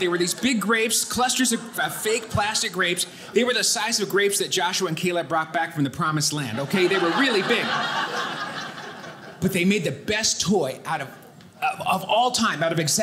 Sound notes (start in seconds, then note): 6.5 audience laughing